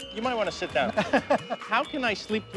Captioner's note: laughing